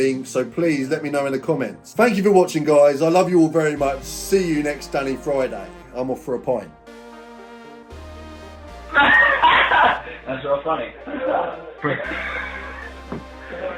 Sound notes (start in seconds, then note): 9.0 laughing